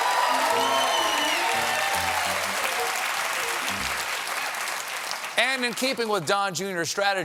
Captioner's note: cheers and applause